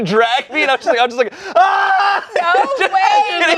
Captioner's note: screams